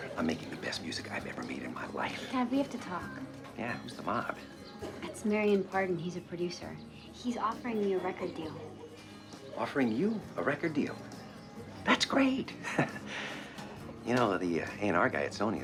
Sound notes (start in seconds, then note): 11.7 chuckles